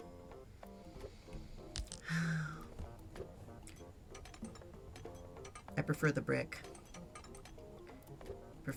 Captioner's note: sighs